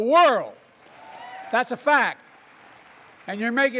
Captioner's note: applause